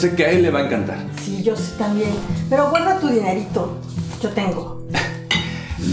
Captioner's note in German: mutter